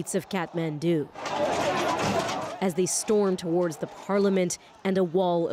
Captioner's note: shouting